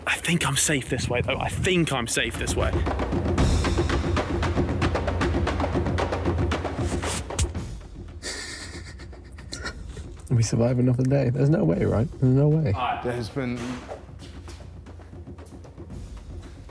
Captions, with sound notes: I think I'm safe this way though. I think I'm safe this way. (intense music) (chuckles) - We survive another day. There's no way, right? No way. - There has been.